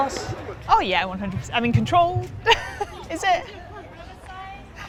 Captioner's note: laughs